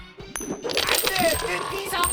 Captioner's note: coins clinking